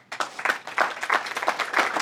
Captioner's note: applause